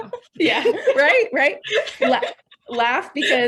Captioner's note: laughs; laughing